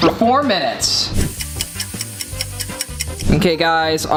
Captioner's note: catchy music; clock ticking